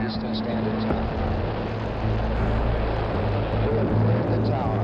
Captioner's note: rocket roaring